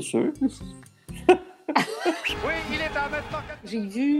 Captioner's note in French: rires